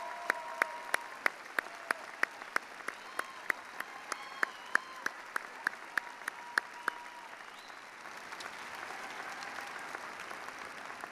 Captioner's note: applause